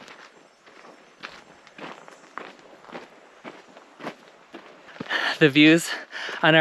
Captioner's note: footsteps